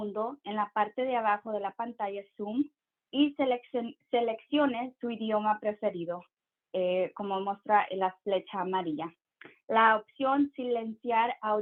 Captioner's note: speaking in Spanish